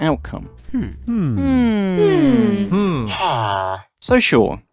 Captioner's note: hmmmmmmmmm